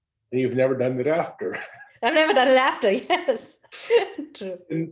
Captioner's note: laugh; laugh